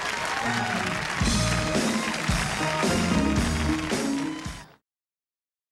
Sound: applause

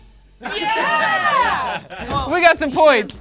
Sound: group laughs

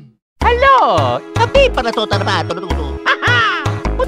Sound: italian gibberish

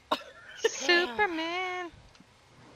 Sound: laughter & Singing

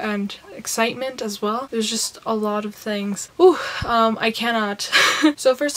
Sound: breaths; laughs

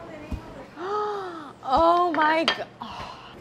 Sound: gasps

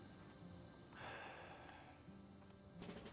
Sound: sighs

